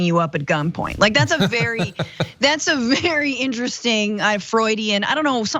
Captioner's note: laugh